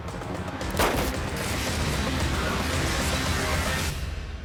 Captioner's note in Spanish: Disparo